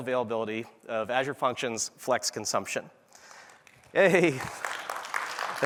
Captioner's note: applause